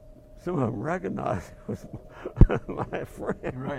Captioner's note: laugh